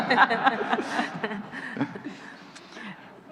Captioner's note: laughing